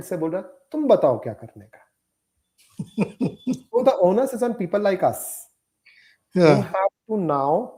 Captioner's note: laughter